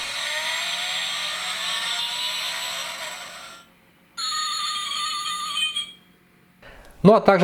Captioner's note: engine running sound